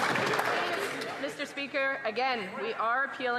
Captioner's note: some Applause